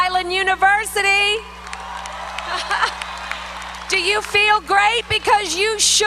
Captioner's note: applause